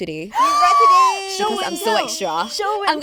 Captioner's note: gasps